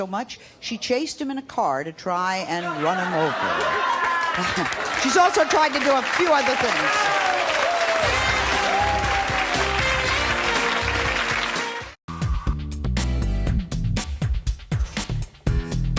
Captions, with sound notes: she chased him in a car to try and run him over. She's also tried to do a few other things. (applause) (upbeat music)